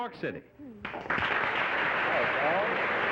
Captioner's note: applause